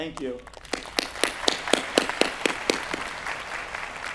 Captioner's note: applause